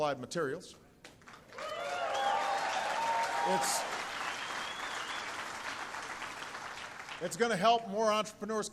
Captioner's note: applause